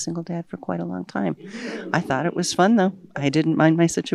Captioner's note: audience laughs